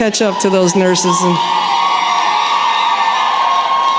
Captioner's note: cheering